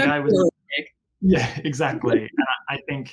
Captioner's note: giggles